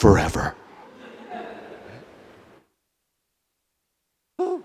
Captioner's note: audience laughs